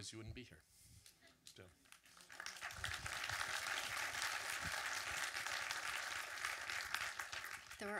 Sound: audience clapping

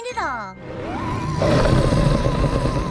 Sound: growling

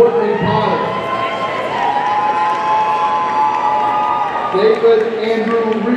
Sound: audience cheering

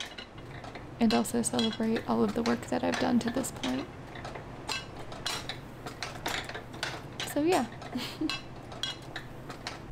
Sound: laughs

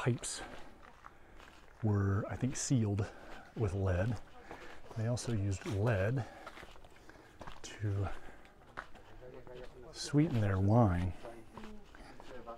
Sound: background chatter

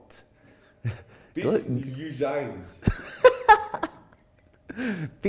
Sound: laughing

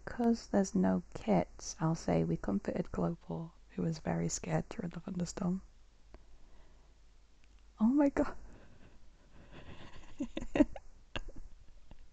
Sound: laughs

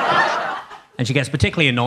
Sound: audience laughing

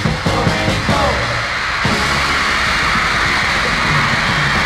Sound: applause

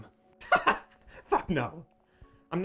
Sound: laughs

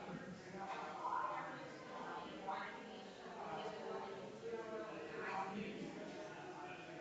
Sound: people chattering distantly continues

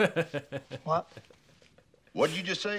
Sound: laughs

